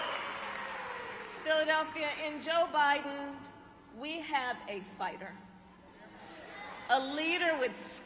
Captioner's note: applause